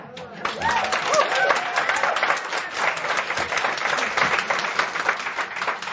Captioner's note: audience applause